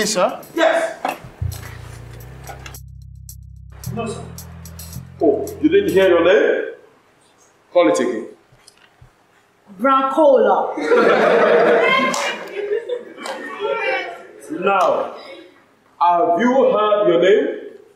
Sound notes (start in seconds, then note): 10.7 laughter